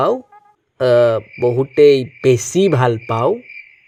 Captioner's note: sarcastically